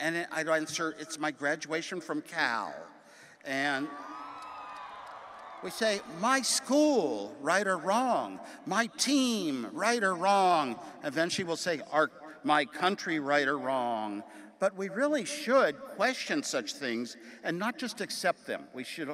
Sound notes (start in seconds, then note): 4.0 audience applauding and cheering